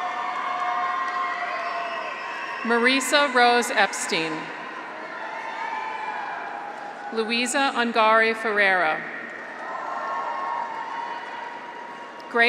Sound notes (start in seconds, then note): 0.0 graduates cheer; 9.1 graduates cheer